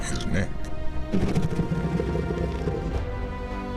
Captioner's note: soft growling